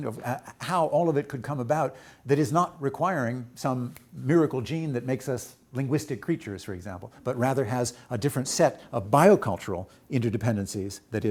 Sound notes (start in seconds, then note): none